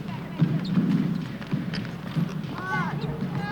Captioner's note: balls bounce; players chatter